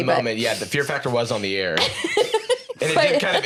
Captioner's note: laughs